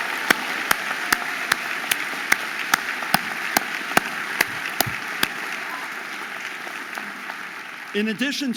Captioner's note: audience applauding and cheering